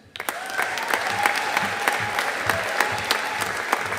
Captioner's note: audience applauding